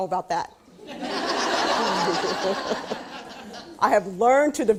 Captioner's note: laughing